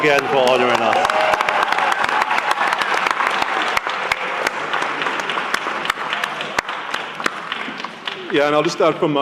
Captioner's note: applause